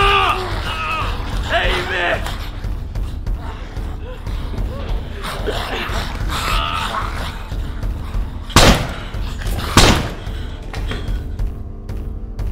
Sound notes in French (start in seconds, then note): 8.5 Coup de feu, suivi d'un second